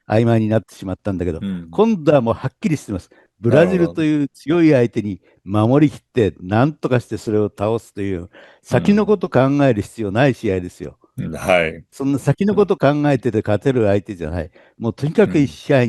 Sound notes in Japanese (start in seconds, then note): 11.4 咳払い